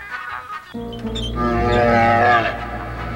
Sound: loud growling

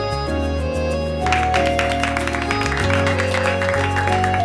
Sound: clapping

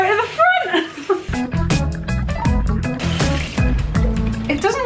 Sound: laughing

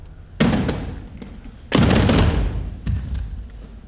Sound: thumping

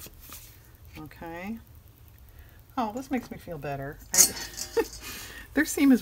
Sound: laughs

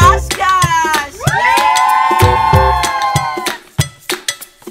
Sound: cheering

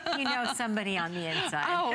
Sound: laughter

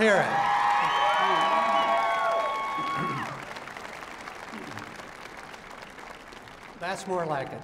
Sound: loud applause and shouting

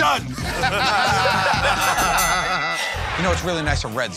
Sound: laughing; dinging

